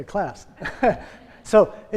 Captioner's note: laughing